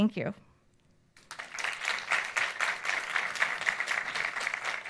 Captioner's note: audience applauds